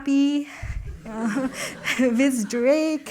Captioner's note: laughter